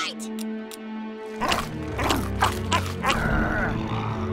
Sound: growling

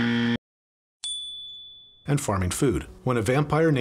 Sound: buzzer sound; "ding" sound

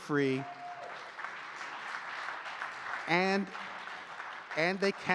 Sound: audience cheering and clapping

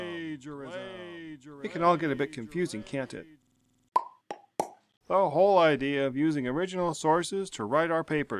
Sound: popping sounds

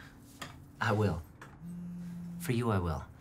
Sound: Jack's phone vibrates; phone vibrates

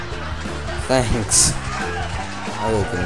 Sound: laugh track

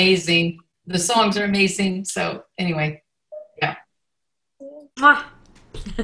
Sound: collection of voices

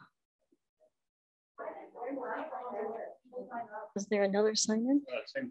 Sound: audience murmuring

